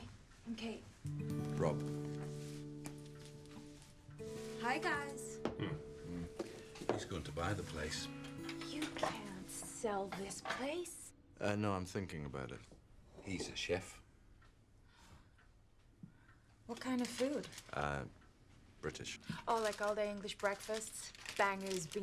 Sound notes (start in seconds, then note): 6.0 men grunting